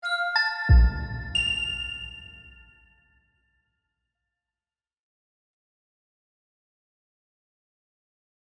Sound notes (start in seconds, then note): 0.2 graphic chimes